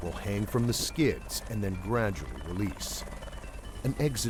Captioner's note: voiceover